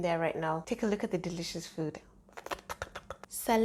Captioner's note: slurps